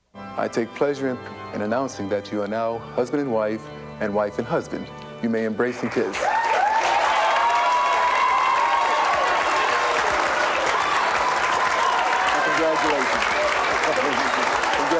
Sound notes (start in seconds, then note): 6.0 audience applause; 6.1 audience cheering